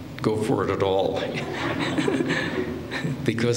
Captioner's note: laughter